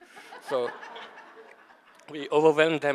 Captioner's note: audience laughing